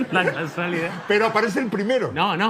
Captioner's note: laughter